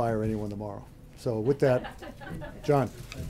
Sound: laughter

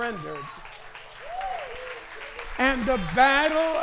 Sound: applause

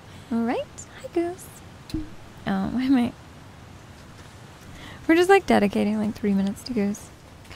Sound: cat's tail hitting the mic again

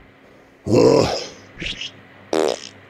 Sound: Peppino moans

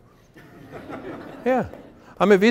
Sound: laughter

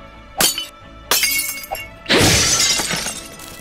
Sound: glass shatters

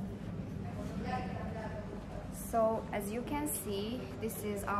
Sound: sound of people talking in the lobby

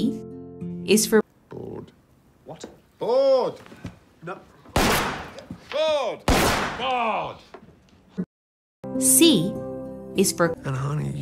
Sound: gunshot

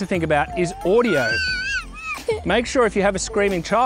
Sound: screeches

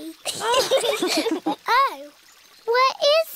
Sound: all laugh

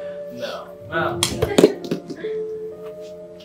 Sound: balls thud to the ground

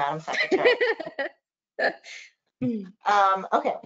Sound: laughs

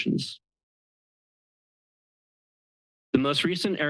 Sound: pause

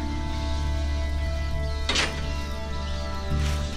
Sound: squeaking continues

